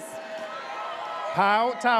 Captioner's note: audience cheers